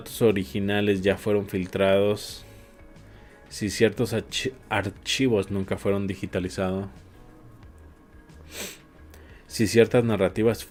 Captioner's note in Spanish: resoplido